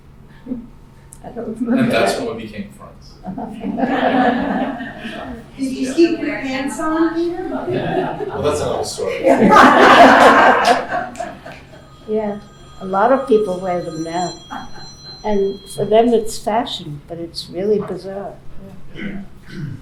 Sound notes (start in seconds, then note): 3.4 laughing; 9.0 laughing